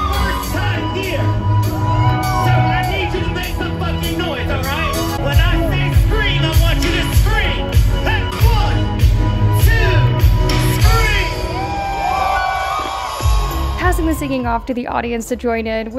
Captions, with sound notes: This is my first time here so I need you to make some noise all right. When I say scream, I want you to scream. One, two, scream (audience screaming) Parson was singing off to the audience to join in,